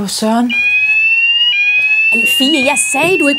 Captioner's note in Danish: Alarm lyder